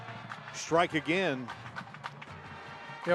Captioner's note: applause